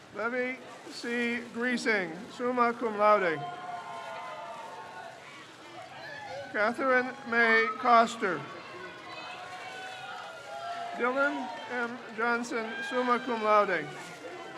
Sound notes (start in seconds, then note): 3.6 crowd cheers; 8.6 crowd cheers; 14.3 crowd cheers